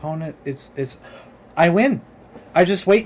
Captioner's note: gasp